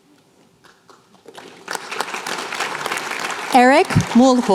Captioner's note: applause